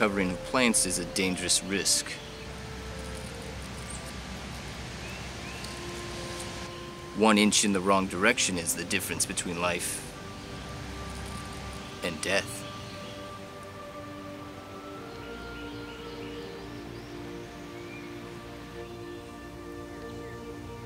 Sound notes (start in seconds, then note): 13.1 birds singing; 13.1 wind blowing